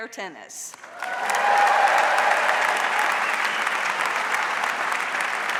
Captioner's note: audience cheers and applauds